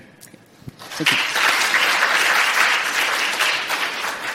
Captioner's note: applause